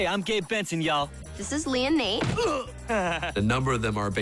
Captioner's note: grunts, laughs